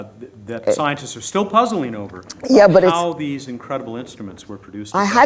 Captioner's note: none